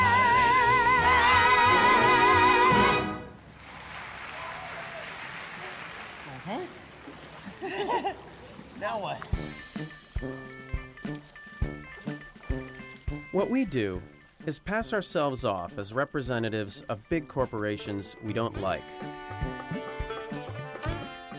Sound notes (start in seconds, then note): 3.4 applause; 7.4 laughter